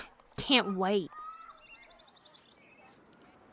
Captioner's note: sarcastic